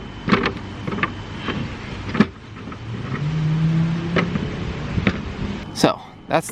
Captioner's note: wood clattering